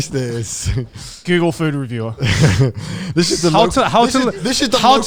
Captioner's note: laughs